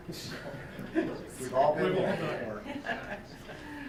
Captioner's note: chuckles